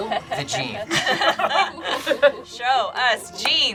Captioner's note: group laughs